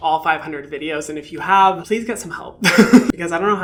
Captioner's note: laughs